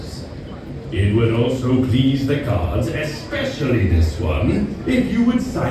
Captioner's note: intercom Announcement